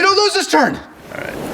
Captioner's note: waves crashing